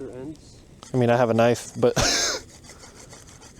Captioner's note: chuckles